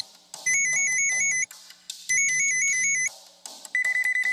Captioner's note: phone rings brightly; phone rings sharply; phone rings cheerfully